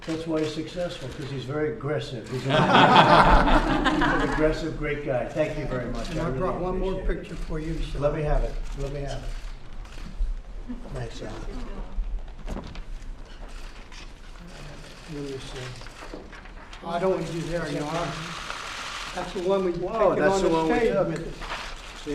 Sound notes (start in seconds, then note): 2.4 laughter